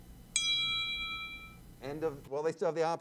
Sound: bell rings

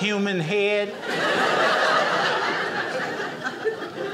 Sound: audience laughing

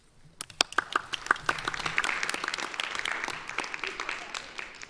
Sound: audience applauds

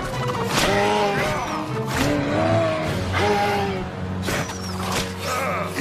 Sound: elk screams

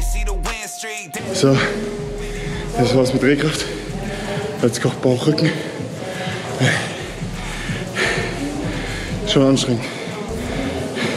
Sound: audible breathing

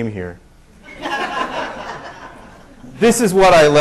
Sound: laughter

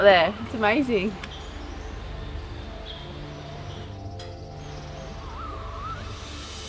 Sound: birds chirp

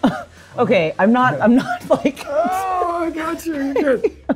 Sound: laughs

